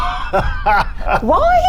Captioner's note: chuckles